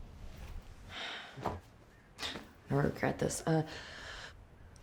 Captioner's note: sighs